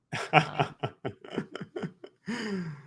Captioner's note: laughs